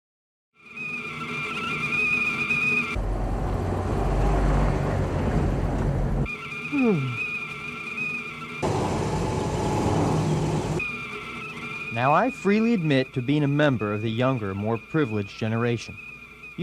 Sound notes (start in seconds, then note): 0.7 tea kettle whistling; 2.9 car rumbling; 6.5 tea kettle whistling; 6.7 man yawns; 8.6 car rumbling; 10.7 tea kettle whistling